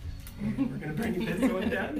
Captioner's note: laughing